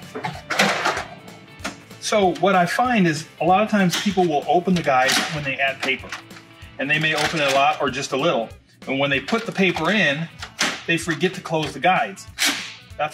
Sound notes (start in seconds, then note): 0.1 tray opens